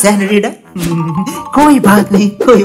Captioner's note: chuckle